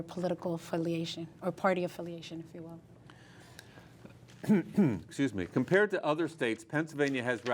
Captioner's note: cough